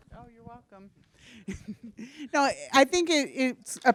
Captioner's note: laughs